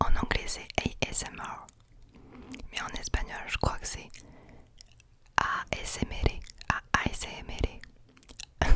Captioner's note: ASMR with Spanish accent